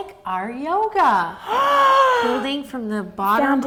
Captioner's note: gasping